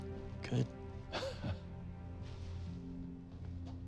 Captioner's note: laughs